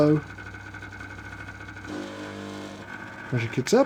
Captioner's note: coffee machine whirring